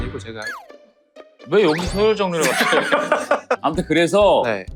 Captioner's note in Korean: 웃음